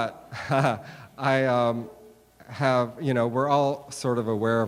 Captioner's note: chuckling